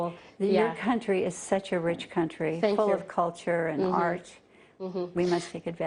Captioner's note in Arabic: تتحدث الإنجليزية